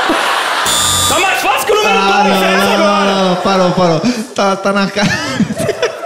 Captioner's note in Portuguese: campainha